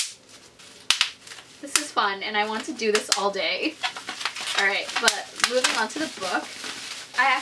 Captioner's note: popping noise